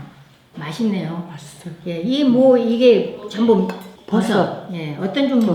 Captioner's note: speaking foreign language